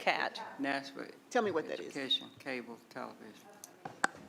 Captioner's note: quietly; speaking quietly